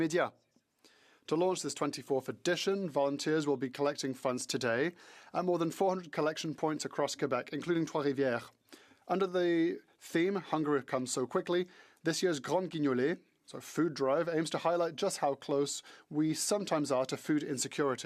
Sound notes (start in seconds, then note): 5.4 speaking French